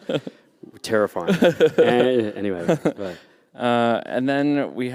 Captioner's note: laughter